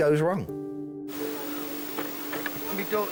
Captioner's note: gentle music; wind whooshing